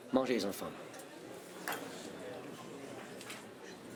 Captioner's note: Rene speaks French